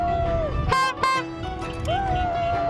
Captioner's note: horn blowing